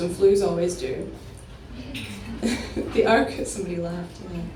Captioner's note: an audience member laughs